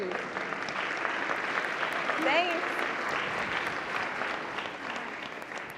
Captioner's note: audience applauds